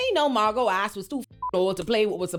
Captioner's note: beep